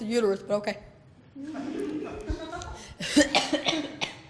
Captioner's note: laughter